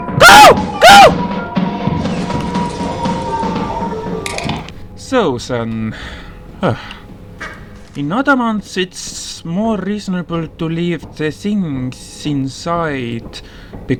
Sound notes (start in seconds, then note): 6.5 sigh